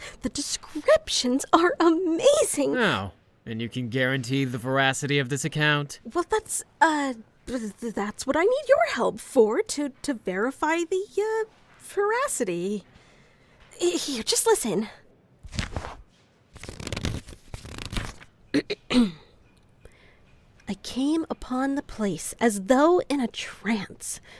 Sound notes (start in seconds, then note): 18.6 clears throat